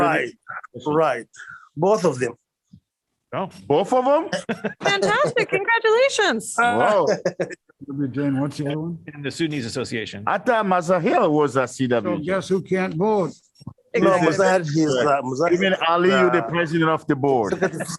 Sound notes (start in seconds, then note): 4.4 laughter